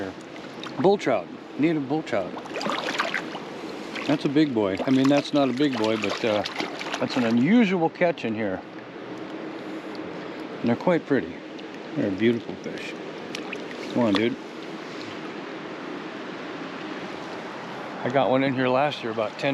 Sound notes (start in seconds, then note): 2.2 fish splashing